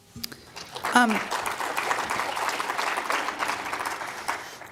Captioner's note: applause